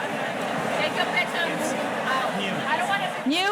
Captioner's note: murmurs